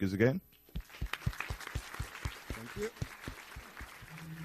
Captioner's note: applause